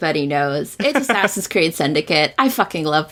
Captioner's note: laughs